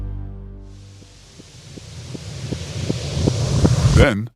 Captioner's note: rising hiss